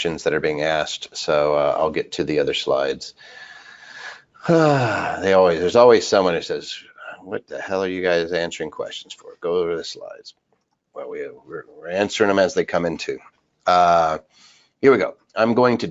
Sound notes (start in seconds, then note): 3.2 sighs heavily